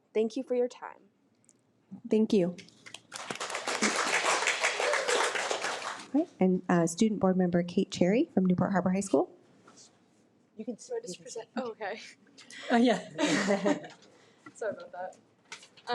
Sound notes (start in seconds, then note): 3.1 audience applause; 13.0 laugh